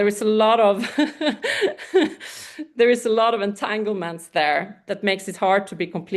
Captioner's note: laughs